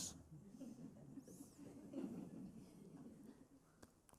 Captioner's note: laughter